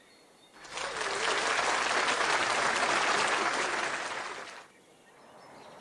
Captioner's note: applause